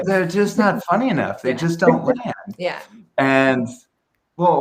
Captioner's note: laughing